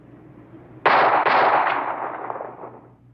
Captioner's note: gun shots